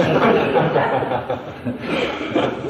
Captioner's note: laughter